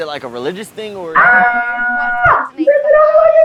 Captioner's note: screams